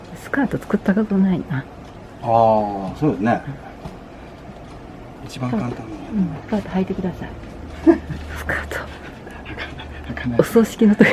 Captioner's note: chatting